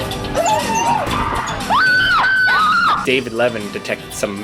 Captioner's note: woman screams